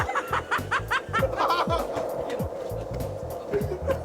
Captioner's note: both laughing; upbeat music